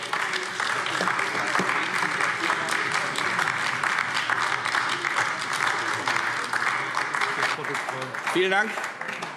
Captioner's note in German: Beifall AfD